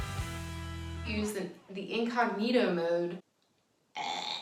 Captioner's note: choking noises